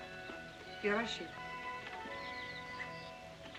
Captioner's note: speaking in Japanese; soft music